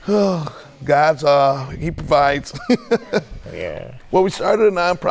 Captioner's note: laughing